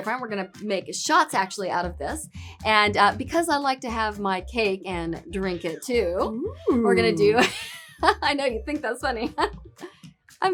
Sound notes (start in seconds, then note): 6.7 laughs